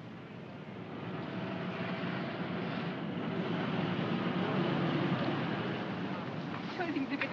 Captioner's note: vehicles rumbling; speaking in German